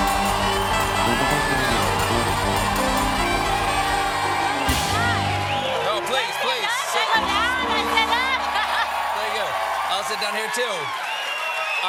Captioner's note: cheers and applause